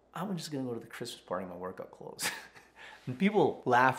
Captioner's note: chuckles